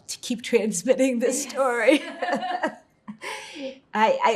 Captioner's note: laughing